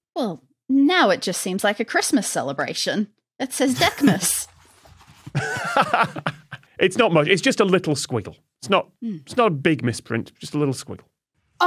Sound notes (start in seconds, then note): 5.3 laughs